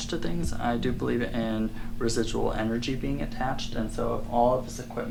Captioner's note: none